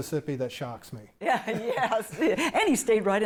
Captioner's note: laughing